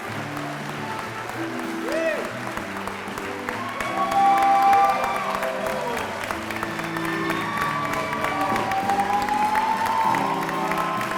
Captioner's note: applause and music continue